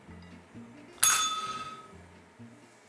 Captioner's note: bell rings